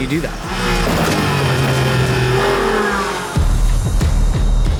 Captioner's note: engine revving; tense music